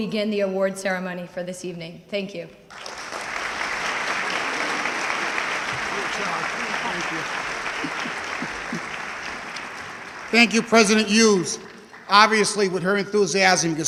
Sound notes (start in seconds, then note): 2.8 audience clapping